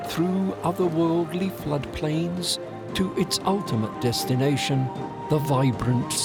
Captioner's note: none